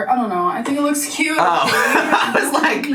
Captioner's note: laughs